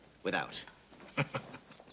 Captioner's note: chuckles